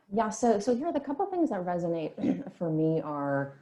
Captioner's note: clears throat